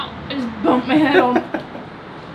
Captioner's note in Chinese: 哈哈哈